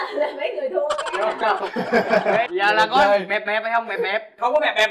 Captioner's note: laughing